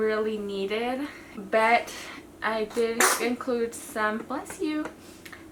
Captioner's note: baby sneezing